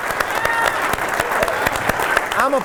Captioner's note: applause